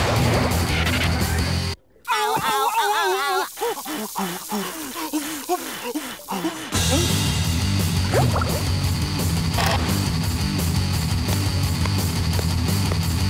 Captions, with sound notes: Ow, ow, ow, ow, ow! [blowing]